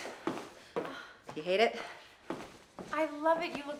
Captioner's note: Candace gasps